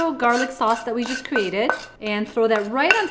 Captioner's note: spoon scraping